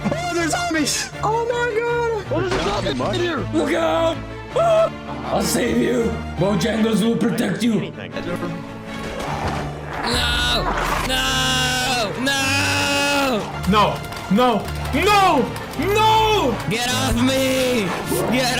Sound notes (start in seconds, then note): 2.5 glass breaking; 3.4 yells